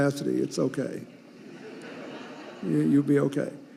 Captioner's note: audience laughing